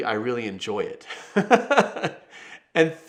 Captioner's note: chuckles